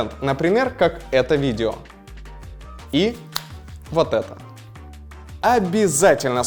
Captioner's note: flick of fingers